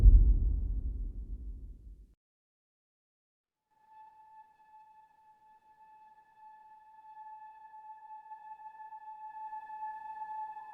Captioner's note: dramatic sound